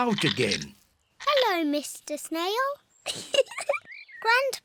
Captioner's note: giggles